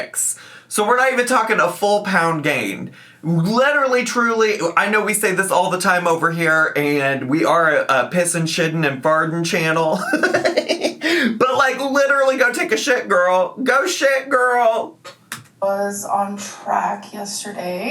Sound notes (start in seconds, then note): 10.0 laughs